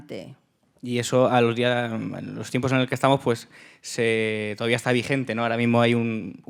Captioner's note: speaking in Spanish